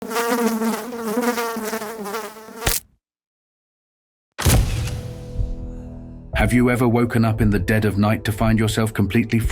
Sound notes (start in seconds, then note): 0.0 fly buzzing; 2.6 fly splatting; 4.9 creepy music